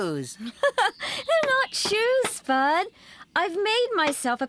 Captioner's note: laughing